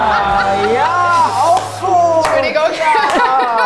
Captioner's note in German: Lachen, Tusch; Zustimmende Rufe